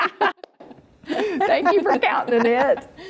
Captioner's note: people laughing